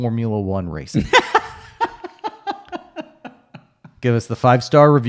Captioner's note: laughing